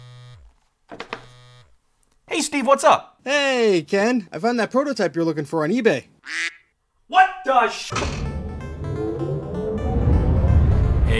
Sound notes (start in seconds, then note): 1.0 phone buzzing; 6.2 duck quacking; 8.0 upbeat techy music